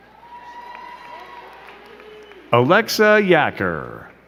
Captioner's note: crowd cheering and clapping